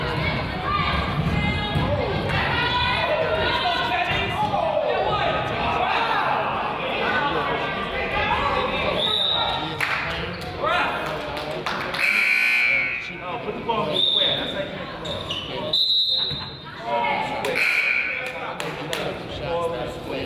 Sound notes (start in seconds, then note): 9.0 whistle blows; 11.0 crowd applauds; 12.0 buzzer honks; 14.3 whistle blows; 17.5 buzzer honks; 20.0 crowd chatters